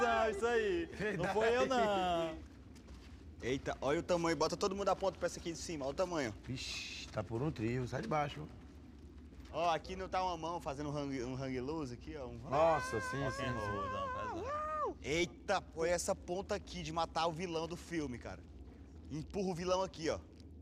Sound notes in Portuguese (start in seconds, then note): 13.9 cantarolando